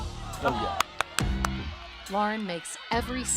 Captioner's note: clapping